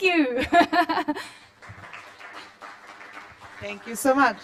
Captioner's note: applause